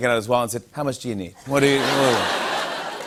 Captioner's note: laughter